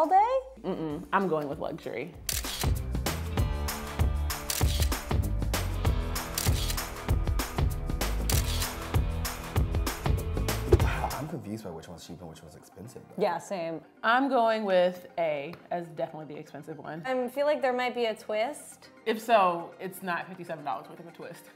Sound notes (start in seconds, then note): 2.2 camera click; 3.1 funky music; 4.4 camera click; 5.3 funky music; 6.2 camera click; 7.3 funky music; 8.2 camera click; 9.1 funky music